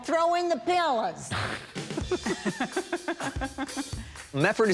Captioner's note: laughter